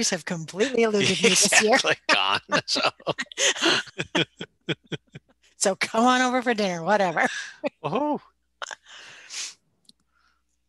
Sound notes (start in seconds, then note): 3.8 laughing; 7.5 chuckling